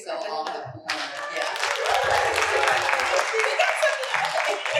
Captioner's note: applause